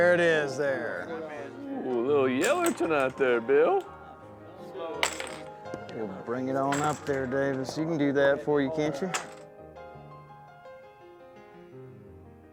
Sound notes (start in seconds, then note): 5.0 chips clink down